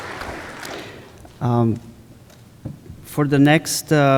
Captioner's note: applause